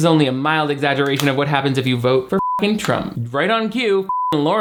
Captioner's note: beep